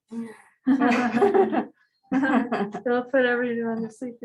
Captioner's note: laughter